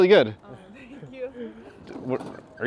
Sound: nervous laughter

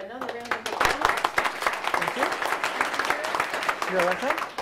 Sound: students clapping

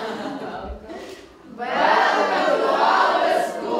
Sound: laughter

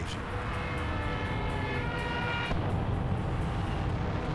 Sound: plane whirring, explosion

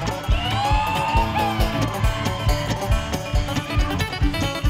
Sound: crowd cheering

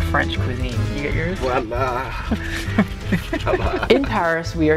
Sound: laughing

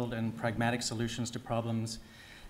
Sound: none

